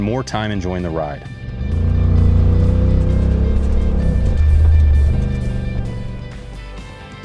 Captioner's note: engine takes off